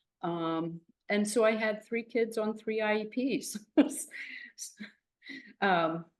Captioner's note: chuckles